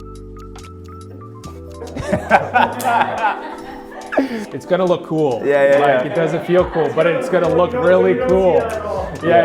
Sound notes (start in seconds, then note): 1.8 people laughing